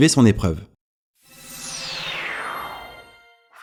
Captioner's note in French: bruit de téléportation